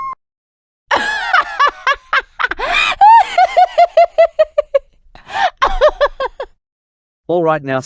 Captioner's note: laughing in agony